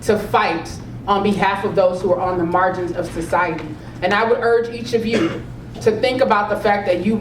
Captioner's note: cough